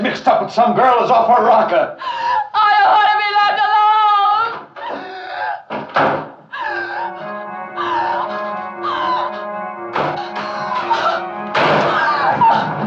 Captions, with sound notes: gettin' mixed up with some girl that's off her rocker. - I don't wanna be left alone! (door opens and closes) (panting and crying) (dramatic organ music)